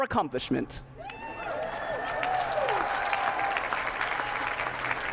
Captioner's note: cheers, applause